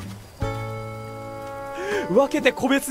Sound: breathes

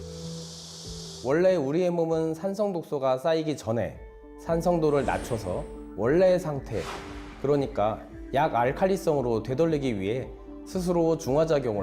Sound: voiceover

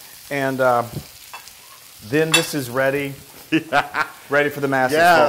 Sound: laugh

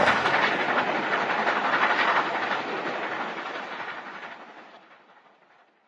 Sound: train wheels rolling on tracks

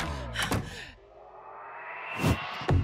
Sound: laughs; pants

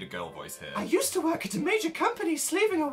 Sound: Dan continues to read in a slightly higher-pitched voice

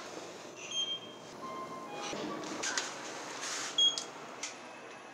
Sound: sounds of elevator

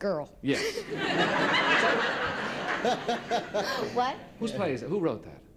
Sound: laughter

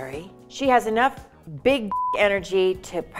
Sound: beep

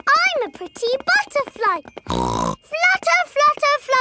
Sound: snorts

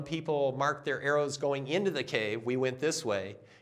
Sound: none

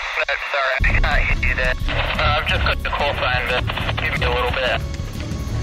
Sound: cutting in and out, lots of static

